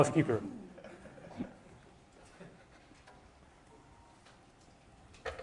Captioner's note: audience chuckling